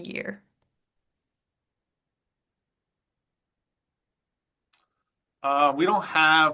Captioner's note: silence